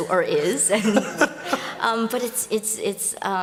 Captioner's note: laughter